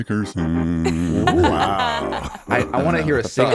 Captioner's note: laughs